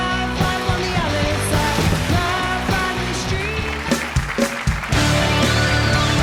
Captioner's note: applause